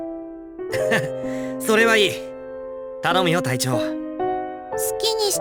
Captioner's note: laugh